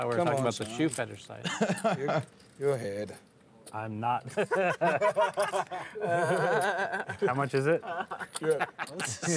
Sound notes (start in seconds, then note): 1.4 chuckles; 4.3 laughter